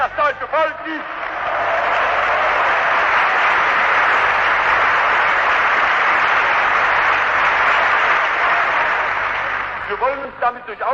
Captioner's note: applause